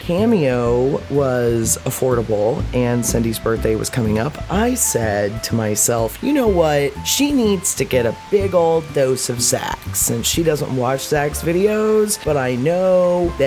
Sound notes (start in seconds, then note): none